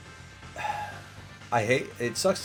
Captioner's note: exhales